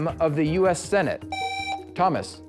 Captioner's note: buzzer